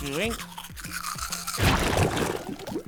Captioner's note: poof